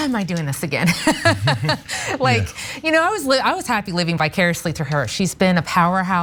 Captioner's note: laugh